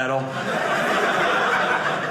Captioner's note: audience laughing